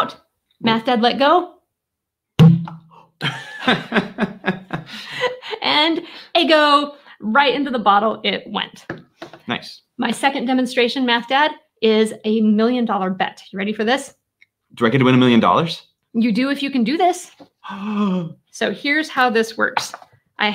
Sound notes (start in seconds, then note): 2.4 egg pops; 3.2 laughing; 17.6 gasps